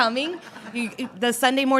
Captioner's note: laughter